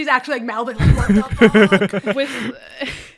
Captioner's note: laughter